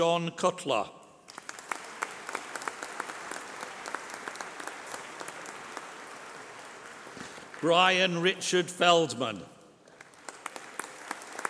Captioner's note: applause